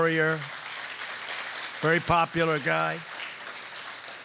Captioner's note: applause